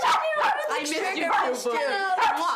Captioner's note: dog barking